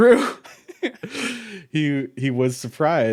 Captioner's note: chuckles